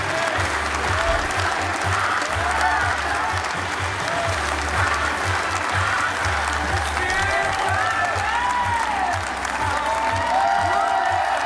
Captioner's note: applause